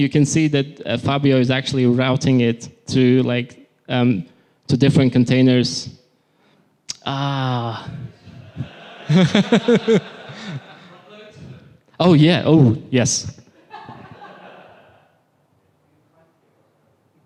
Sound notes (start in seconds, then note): 8.3 laughter; 13.9 brief laughter